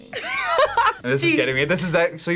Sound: laughs

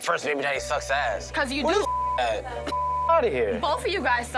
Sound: beep

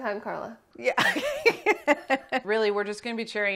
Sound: laughs

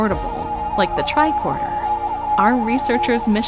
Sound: low pulsing

